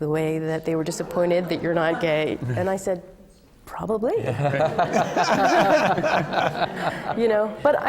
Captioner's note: laughter